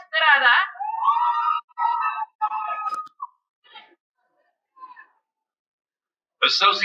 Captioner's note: cheering